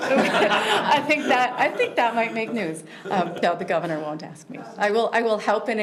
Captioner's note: laughter